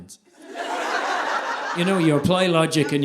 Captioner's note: audience laughing